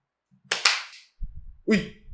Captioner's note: claps